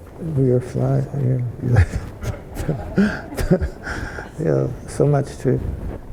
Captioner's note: speaking faintly